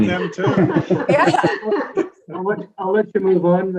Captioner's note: committee laughing